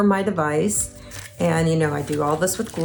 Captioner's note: paper rustling